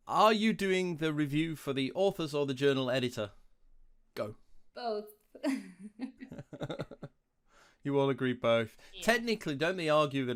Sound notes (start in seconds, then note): 5.5 laughs